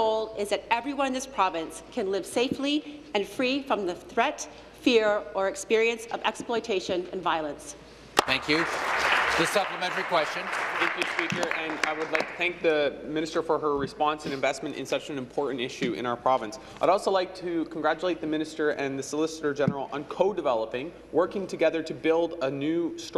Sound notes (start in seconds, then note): 13.0 applause